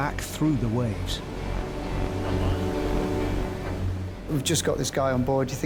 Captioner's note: ominous music; waves crashing